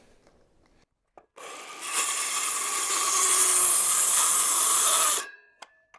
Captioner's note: plastic crinkling